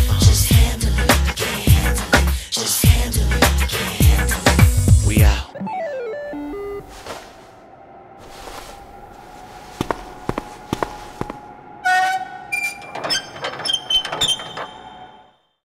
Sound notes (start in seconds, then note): 5.5 8-bit game over sound effect; 8.2 footsteps walking away; 11.8 pinball machine creaks